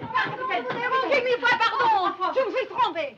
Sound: speaking french

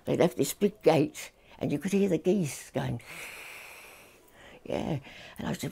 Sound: hissing

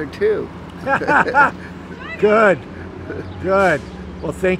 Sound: laughs

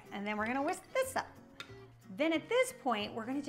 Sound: spoon tapping

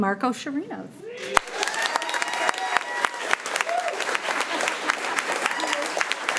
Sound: crowd cheering and clapping

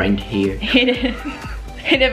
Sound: giggles

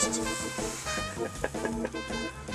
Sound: amused idiot laughing

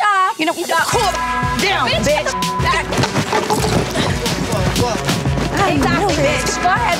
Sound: beep; beep

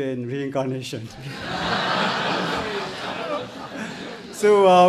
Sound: audience laughs

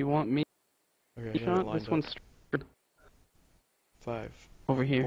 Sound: cuts out

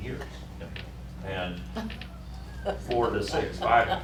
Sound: laughter

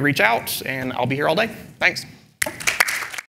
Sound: applause

